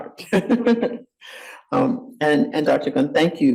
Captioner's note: laughs